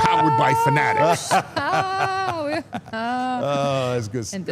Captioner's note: Mark laughs